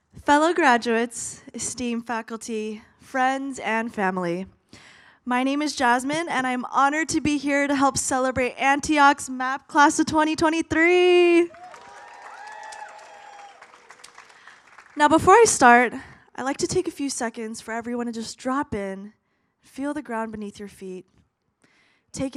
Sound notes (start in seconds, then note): 11.5 audience applauds